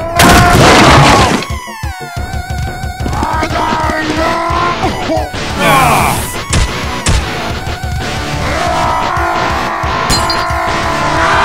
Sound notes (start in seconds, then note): 0.2 crashes; 2.8 Peppino shouting; 5.5 all groan; 8.3 yells angrily; 11.1 all scream